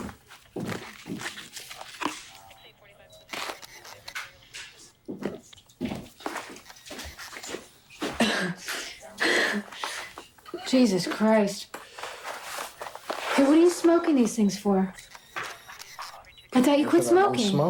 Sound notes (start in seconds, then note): 0.5 footsteps thudding; 5.8 footsteps thudding; 8.3 Alice laughing